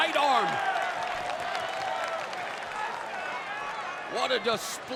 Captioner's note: crowd claps and cheers